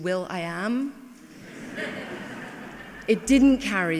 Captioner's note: laughing